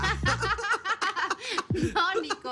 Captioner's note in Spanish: Risas